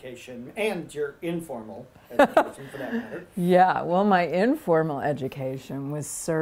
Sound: laughter

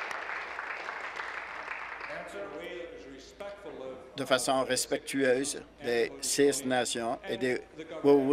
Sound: applause

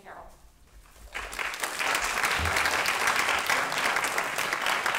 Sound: applause

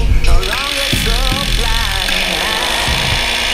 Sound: man laughs; drill grinds

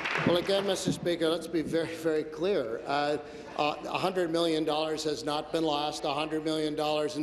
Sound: applause

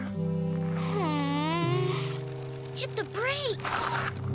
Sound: moans

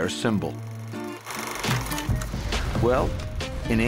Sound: fast-forwarding tape sound

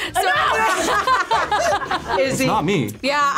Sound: group laughs

